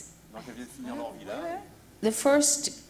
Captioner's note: speaking french